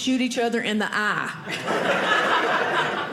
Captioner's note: audience laughing